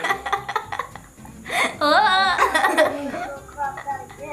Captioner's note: laughs loudly